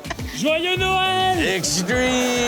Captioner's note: Santa exclaims